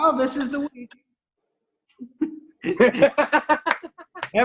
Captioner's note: laughter